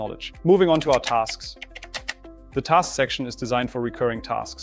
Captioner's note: keyboard clicking